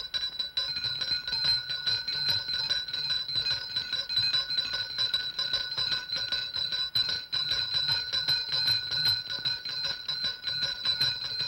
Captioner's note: multiple bells ringing